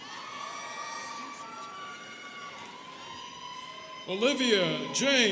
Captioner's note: students cheering